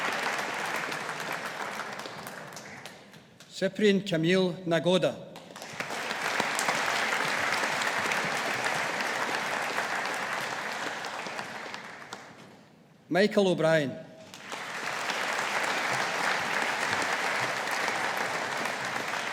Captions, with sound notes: Cyprian Kamil Nagoda. (AUDIENCE APPLAUDING) Michael O'Brien. (AUDIENCE APPLAUDING)